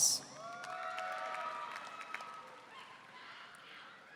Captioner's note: audience cheering